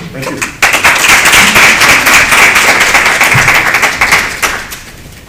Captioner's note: applause